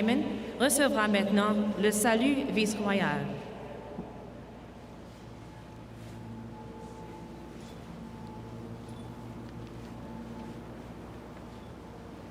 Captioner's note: speaking French